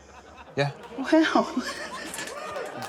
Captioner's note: laughter